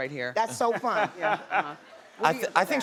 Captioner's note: laughter